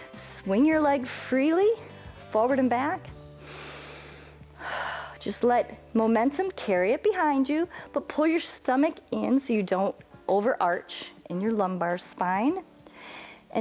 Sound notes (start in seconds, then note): 3.3 inhales and exhales